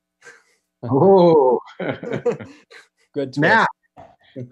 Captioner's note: laughs